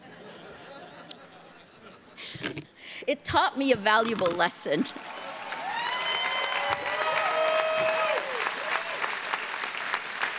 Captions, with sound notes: (audience laughing) It taught me a valuable lesson. (audience cheering)